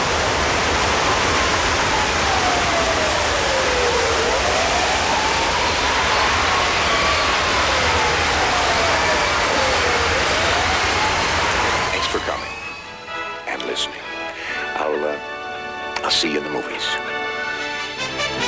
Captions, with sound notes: [SIRENS] THANKS FOR COMING... AND LISTENING. I'LL, UH... I'LL SEE YOU IN THE MOVIES.